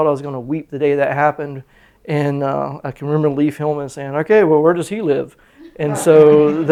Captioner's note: laughter